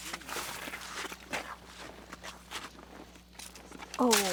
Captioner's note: snow crunching